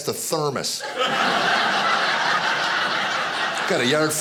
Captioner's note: audience laughing